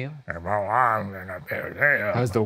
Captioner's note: imitating grumbling